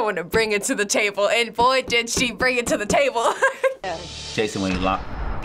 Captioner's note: laughs